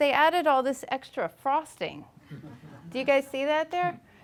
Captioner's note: laughing